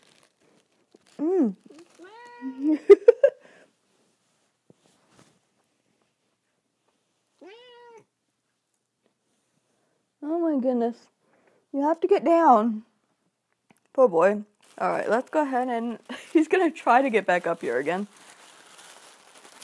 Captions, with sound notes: (CAT MEOWS) (LAUGHS) (CAT MEOWS) Oh my goodness, you have to get down. Poor boy. Alright, let's go ahead and - he's gonna try to get back up here again.